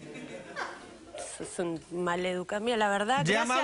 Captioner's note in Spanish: Risas